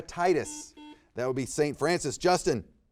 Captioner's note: buzzer beeps